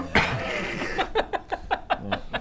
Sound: laughs

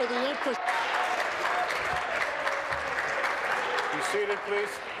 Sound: applause

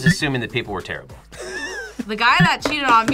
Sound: React laughs

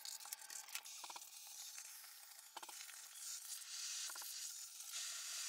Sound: vacuum sucking

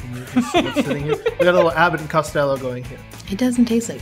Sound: laughs

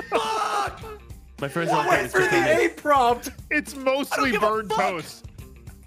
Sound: screams

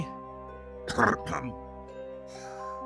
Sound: Serpent King clears throat

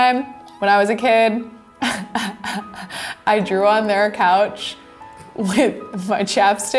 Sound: chuckling

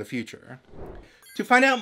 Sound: whoosh

